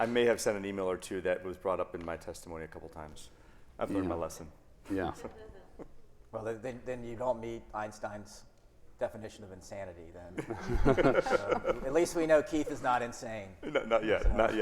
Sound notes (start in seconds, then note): 10.4 everyone laughing